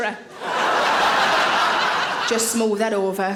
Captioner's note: audience laughing